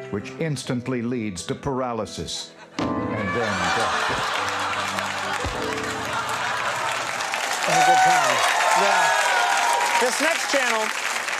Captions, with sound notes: which instantly leads to paralysis and then death. (audience laughing) (audience applauding)